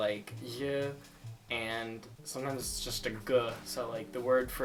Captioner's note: hard g sound